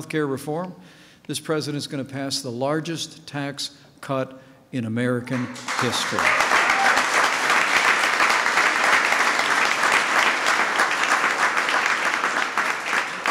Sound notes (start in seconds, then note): 7.1 applause